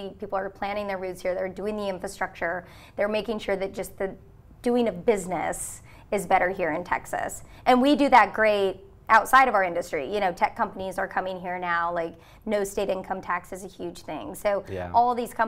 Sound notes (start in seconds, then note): none